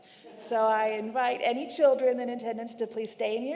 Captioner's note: congregation laughing